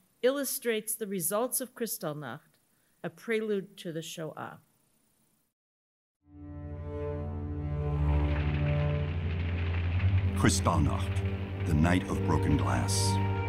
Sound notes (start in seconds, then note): 6.3 mournful music; 8.2 flames crackling